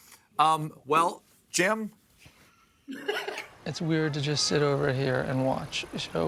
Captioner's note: laughter